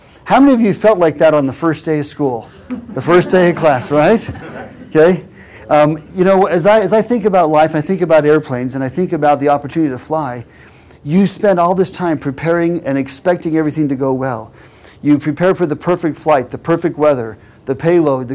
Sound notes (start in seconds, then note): 2.5 laugh